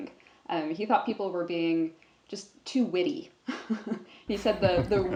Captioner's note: laughs